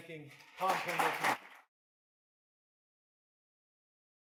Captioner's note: crowd applauding